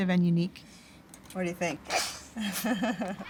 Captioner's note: laughing